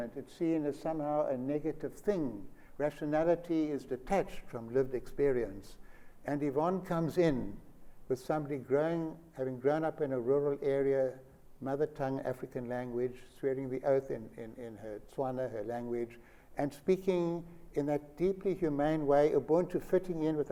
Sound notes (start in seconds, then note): none